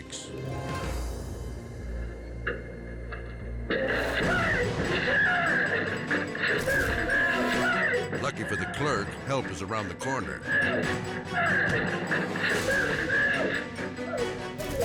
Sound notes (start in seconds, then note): 0.1 suspenseful music; 3.7 clerk screaming; 6.6 both yelling; 6.6 suspenseful music; 9.9 clerk screaming; 9.9 suspenseful music